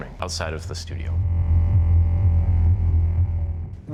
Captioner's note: low descending tone